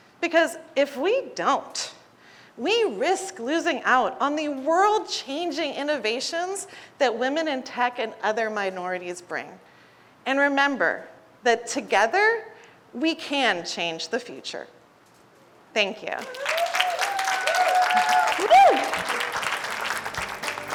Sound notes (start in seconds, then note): 16.2 audience applauding